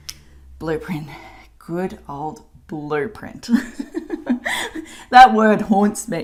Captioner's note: laughs